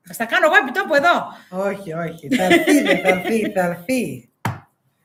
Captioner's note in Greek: γέλια